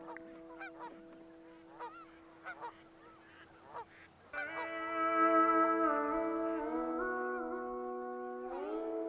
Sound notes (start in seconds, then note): 1.7 geese honking